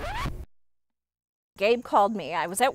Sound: record scratch

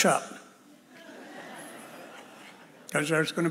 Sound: audience laughs

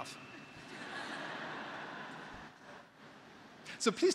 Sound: graduates laughing

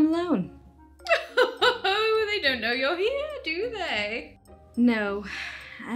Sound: laughs

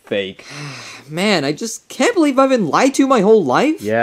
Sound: sighs

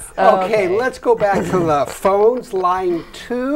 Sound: laughing

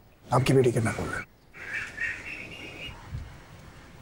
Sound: birds chirping

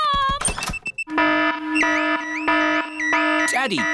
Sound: alarm blaring

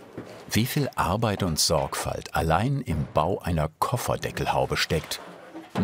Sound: none

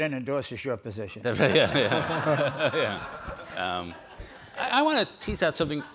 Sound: all laugh

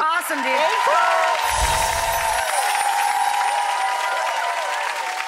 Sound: audience applause

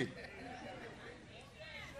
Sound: laughter

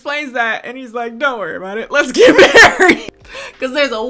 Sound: laughs

